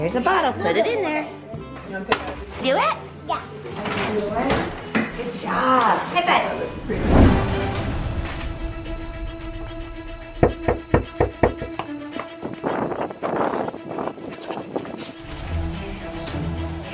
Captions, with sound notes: There's a bottle, put it in there. Do it? - Yeah. - Good job, high five. (knocking) (upbeat music) - Shh.